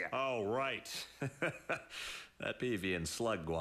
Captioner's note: laughs